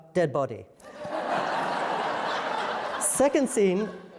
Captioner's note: laughter